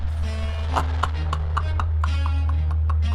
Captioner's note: laughing